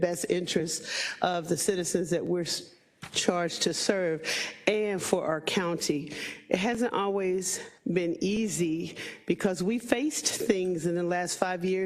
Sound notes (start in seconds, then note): none